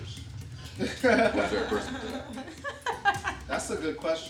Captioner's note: all laughing